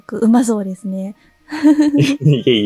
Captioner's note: chuckles